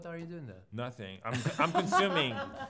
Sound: laughs

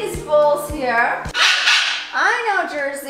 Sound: Jersey squawks

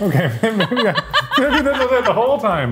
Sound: laughing

